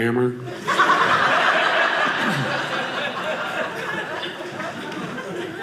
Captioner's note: audience laughing